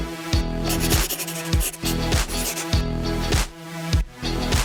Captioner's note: pencil writing